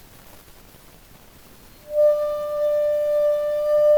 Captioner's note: ringing